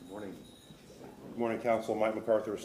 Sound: none

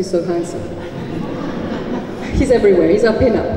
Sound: laughter

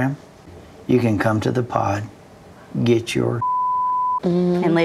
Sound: beep

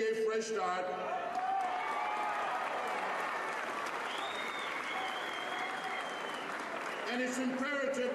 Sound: cheers and applause

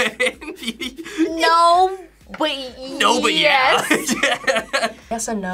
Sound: laughs; laughs

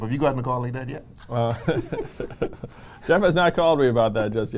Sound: laughs

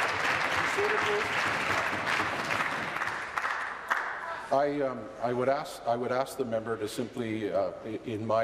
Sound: applause

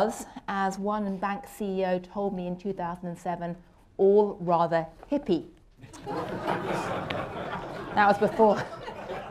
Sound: laughter

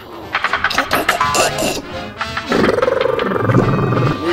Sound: snoring intensifies; deafeningly disgusting snoring

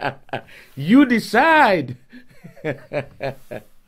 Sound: laughing

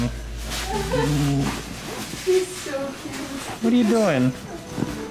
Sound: laughter; grunts

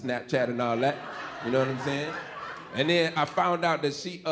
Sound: audience laughing

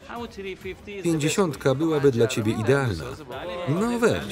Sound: foreign language

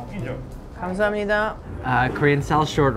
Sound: speaking in Korean

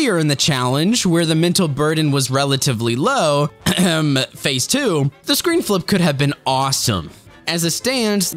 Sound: ahem

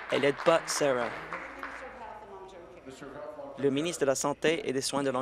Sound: applause

